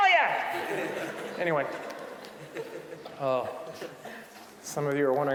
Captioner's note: audience laughing